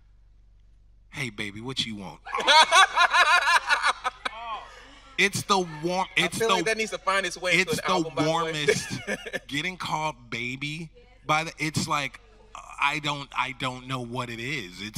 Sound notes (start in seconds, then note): 2.2 everyone laughing; 8.6 laughing